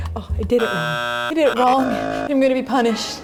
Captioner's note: buzzer